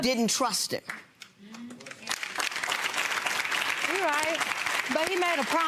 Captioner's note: audience clapping